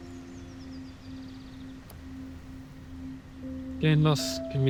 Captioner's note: birds chirping